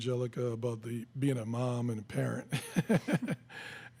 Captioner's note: laughs